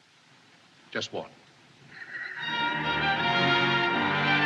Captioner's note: laughing